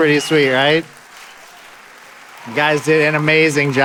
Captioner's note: audience applauding